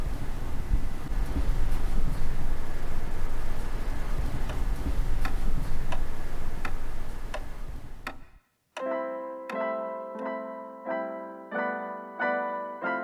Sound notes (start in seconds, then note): 6.1 clock ticking